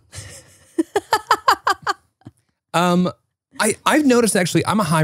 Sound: laughing

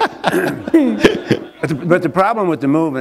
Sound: laughter

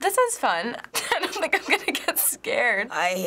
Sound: laughing

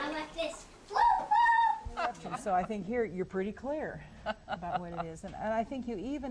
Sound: laughs

